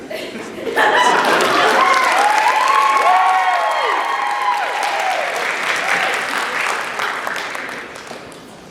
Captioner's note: applause